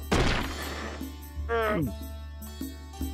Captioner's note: gulps